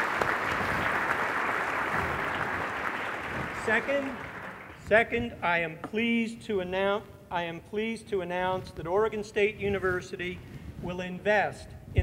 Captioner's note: applause